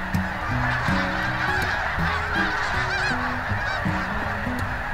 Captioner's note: snow geese honking